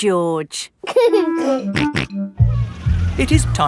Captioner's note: giggling and snorting